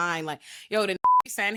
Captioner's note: beep